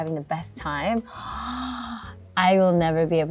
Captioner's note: gasps